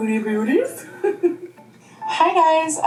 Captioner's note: laughing